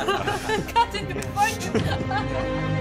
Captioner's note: laughing